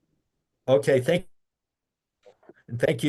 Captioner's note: audio cuts